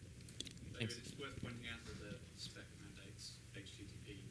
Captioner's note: off mike